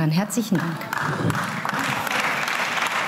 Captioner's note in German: Beifall